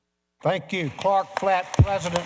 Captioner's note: applause